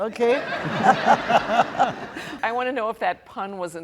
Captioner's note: laughing